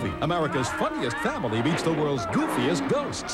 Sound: yelling, door slams to ground

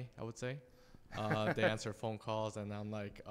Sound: laughs

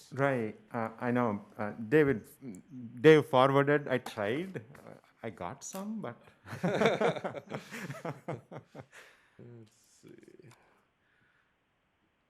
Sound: laughter

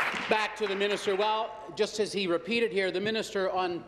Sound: applause

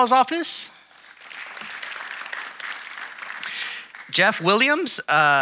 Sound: audience applauding

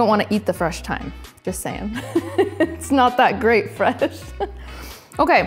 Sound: giggles

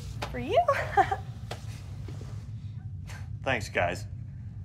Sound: laughs

